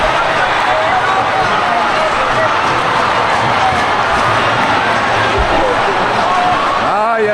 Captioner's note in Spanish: ovación